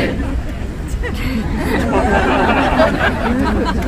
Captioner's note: some laughter